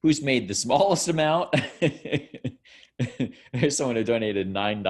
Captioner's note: laughing